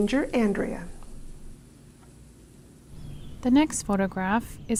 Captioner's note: rain sounds fading